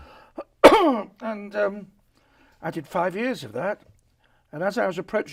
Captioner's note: coughs